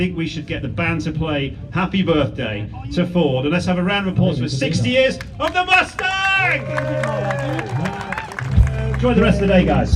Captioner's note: applause